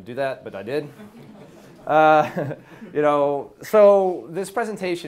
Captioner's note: audience laughs